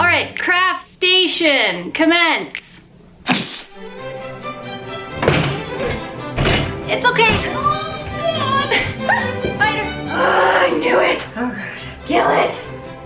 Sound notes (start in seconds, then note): 3.5 crashing; 3.7 classical music; 8.2 grunting